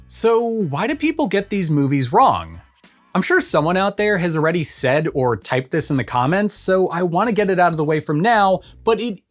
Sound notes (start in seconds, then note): 2.6 beat